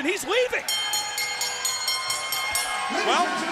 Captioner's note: bell ringing